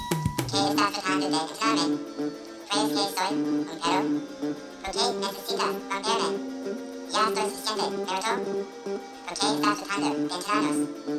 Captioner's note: foreign language